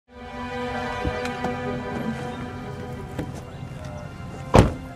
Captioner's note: dramatic music; car door clicking; car door slamming